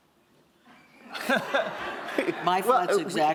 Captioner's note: laughter